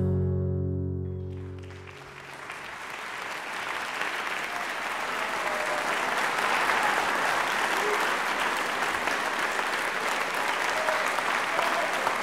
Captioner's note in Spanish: aplausos del público